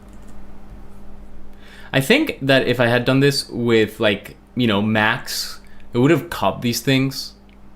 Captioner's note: click